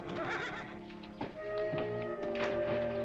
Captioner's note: horse neighing